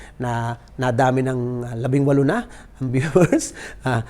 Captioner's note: chuckle